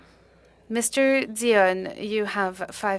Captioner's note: speaking French